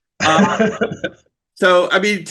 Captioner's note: laughs